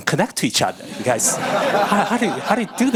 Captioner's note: audience laughing